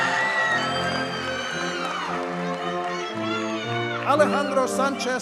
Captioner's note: audience cheers and applauds